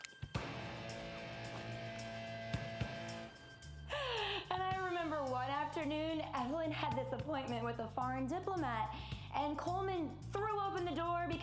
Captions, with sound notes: (laughing) - And I remember one afternoon, Evelyn had this appointment with a foreign diplomat, and Coleman threw open the door